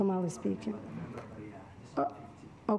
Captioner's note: faintly speaking